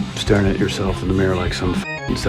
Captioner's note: beep